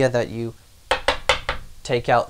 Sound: tapping

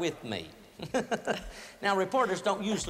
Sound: laughter

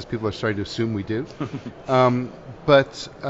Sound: laughing

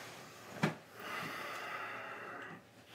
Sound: sighing

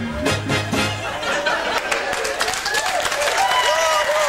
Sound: music ends, crowd applause

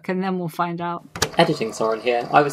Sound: tape recorder clicks on

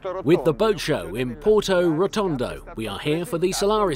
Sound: voiceover

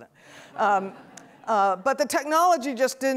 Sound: audience laughs

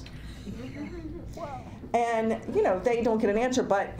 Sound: laughter

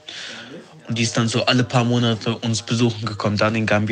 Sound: none

